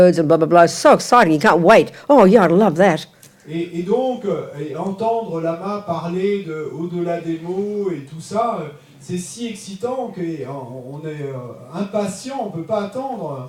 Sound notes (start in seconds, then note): 3.3 French; 13.3 French